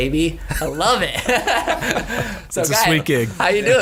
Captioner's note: laughing